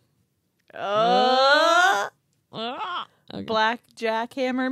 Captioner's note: cheering